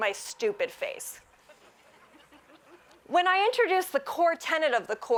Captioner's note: laughs